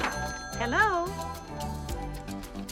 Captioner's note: telephone Ringing